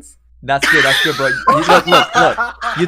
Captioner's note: laughs